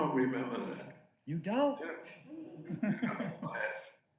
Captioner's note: male Voice